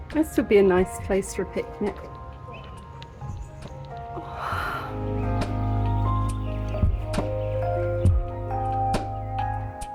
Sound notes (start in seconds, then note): 4.2 sigh; 6.7 relaxing music